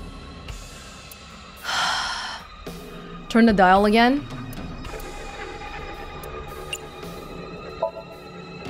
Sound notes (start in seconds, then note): 1.6 exhales